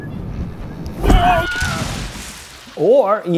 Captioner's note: scream